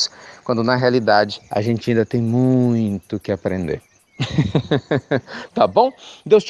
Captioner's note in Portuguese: Risos